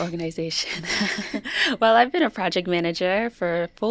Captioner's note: chuckles